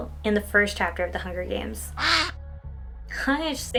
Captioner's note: quack